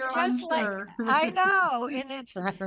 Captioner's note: laughs